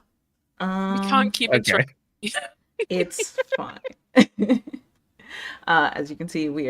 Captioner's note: some giggles